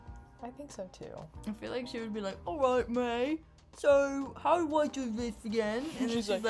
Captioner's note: falsetto british tracer voice